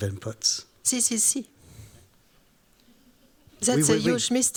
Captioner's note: non-english speech